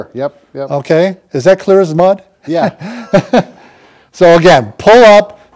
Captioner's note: chuckles